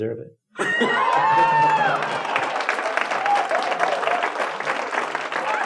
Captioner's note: applauding and cheering